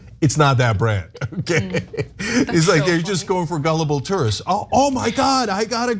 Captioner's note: laugh